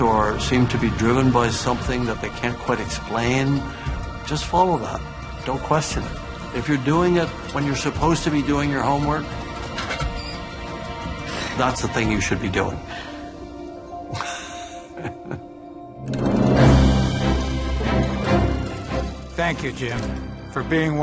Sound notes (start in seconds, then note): 14.1 laughs; 16.5 dramatic music